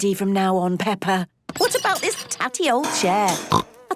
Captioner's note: snorting